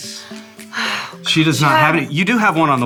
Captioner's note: sighs